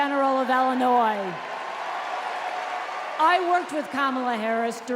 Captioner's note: applause